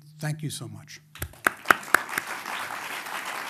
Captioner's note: applause